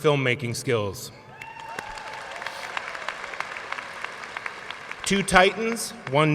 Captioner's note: audience cheering and applauding